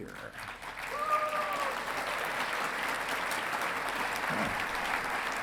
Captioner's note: audience clapping